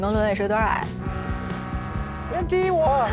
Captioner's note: honk!